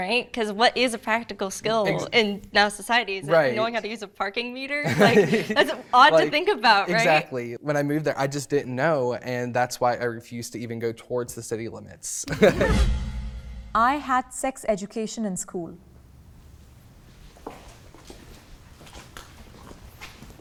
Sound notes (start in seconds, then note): 12.2 laughing; 17.5 feet stomping